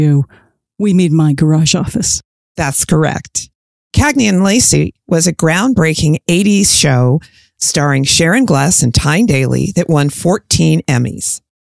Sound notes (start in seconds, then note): none